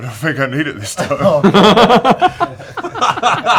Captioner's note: laughter